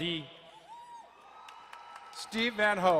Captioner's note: crowd cheering and applauding